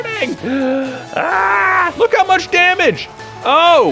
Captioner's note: gasps